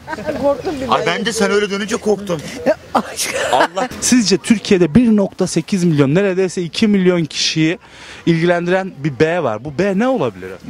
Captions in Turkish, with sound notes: - Korktum sen birden gelince + Bende sen dönünce korktum ( Gülme sesi ) + Sizce Türkiye'de 1.8 Mn + Neredeyse 2 Mn kişiyi + İlgilendiren + Bir B var + Bu B ne olabilir